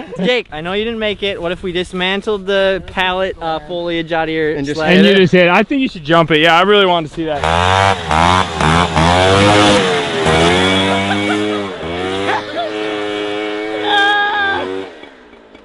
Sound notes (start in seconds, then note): 7.2 engine revving